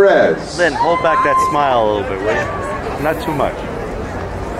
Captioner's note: crowd cheering